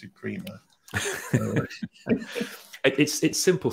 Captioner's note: laughter